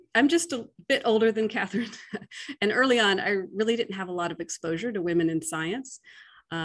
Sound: laugh

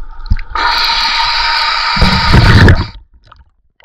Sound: sound of air releasing from the buoyancy compensator to descend

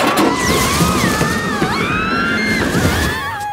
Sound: all screaming

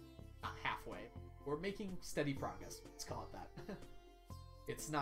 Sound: chuckles

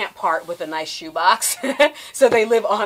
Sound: laughs

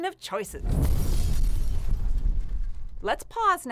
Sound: glass-shattering blast

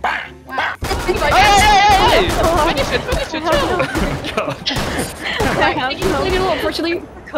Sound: murmuring

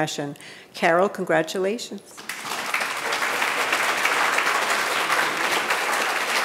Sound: audience applauding

